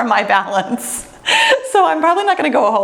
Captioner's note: laughs